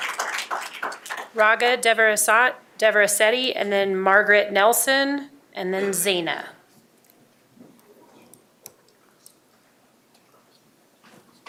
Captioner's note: applause